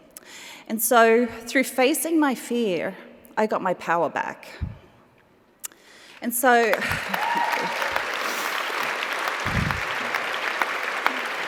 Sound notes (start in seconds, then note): 6.6 applause, cheering